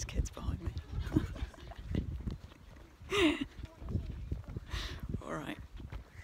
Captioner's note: giggles